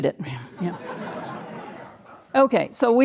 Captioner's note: audience laughing